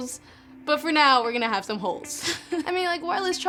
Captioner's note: laughs